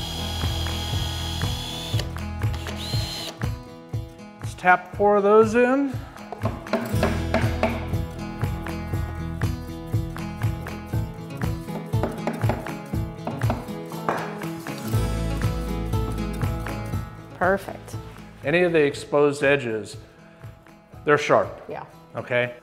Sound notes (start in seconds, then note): 0.0 drill whirring; 0.0 upbeat music; 7.2 upbeat music; 7.2 wood hammering